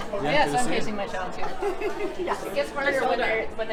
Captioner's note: laughs